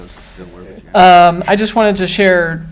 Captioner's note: people murmuring